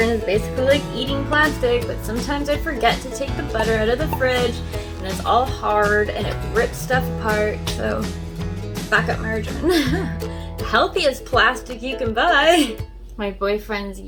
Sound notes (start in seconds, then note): 9.6 laughs